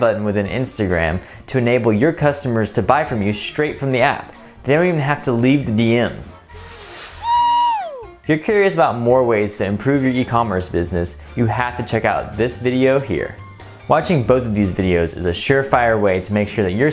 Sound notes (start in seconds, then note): 7.2 man screaming